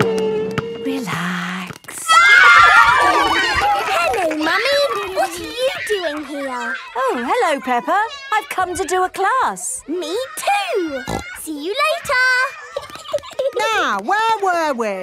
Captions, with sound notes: - Relax... (kids screaming) (laughter) - Hello, Mummy. What are you doing here? - Oh, hello, Peppa. I've come to do a class. - Me, too! (snorting) See you later! (giggling) - Now, where were we?